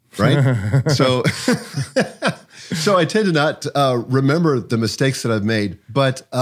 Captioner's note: chuckles; laughs